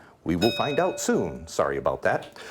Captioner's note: bell ringing